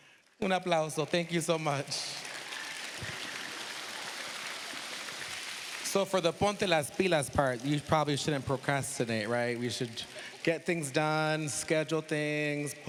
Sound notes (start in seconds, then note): 0.3 speaking spanish; 2.7 applause; 6.4 speaking spanish